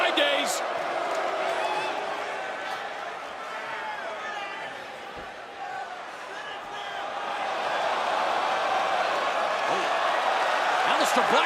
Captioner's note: crowd chatter